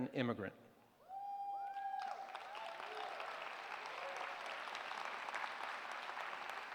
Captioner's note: cheers